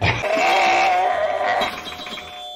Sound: growling

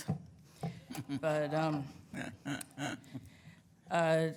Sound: laughs

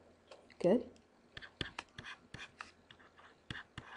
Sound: scribbling

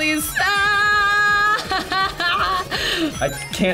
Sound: yells

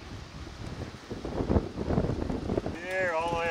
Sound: whooshing

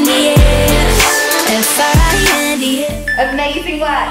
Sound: timer beeping

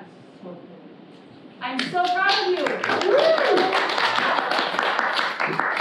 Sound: students clap in celebration

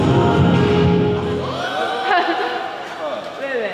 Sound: screaming

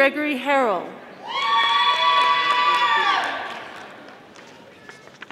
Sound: audience applauding

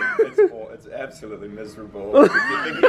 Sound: laughs

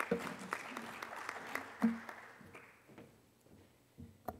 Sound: applause

